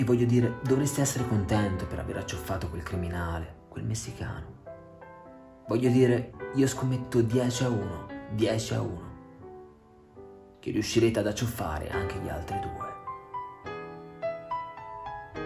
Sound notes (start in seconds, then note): none